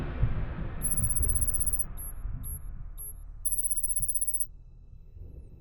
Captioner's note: thunder rumbling; text whirring and blipping